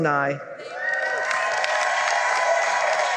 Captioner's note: cheering and applause